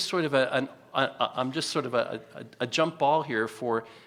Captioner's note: stutters